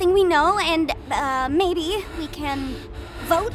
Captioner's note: panting